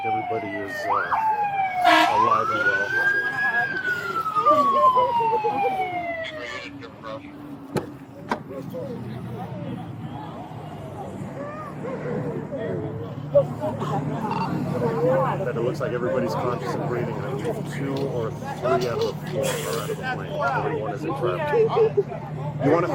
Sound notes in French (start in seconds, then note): 3.8 femme sanglotant